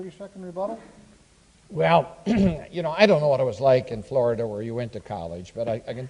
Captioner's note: clears throat